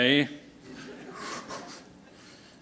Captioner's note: laughter